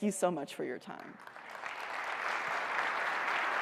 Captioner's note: applause